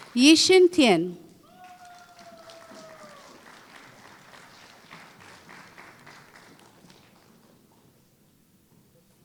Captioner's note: applause